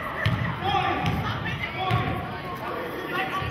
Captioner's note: yelling